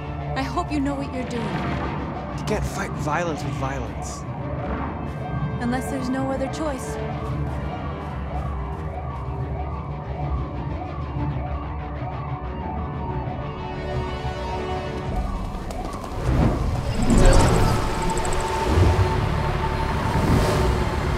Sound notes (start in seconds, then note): 9.3 sirens approaching